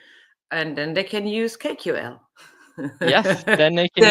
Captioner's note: laughs